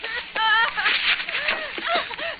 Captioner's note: sobbing